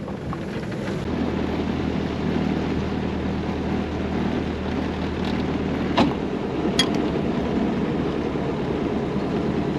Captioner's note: diesel engine sounds